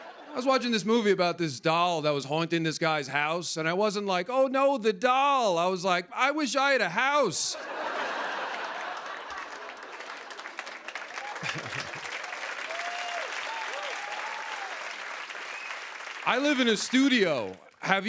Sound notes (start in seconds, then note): 7.5 laughter; 10.3 cheers and applause